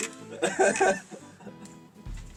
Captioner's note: laughs